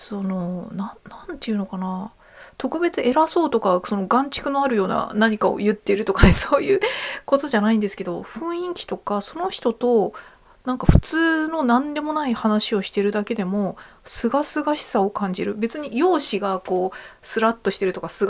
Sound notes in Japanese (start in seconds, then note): 6.6 笑い